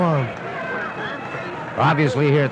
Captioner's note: crowd chattering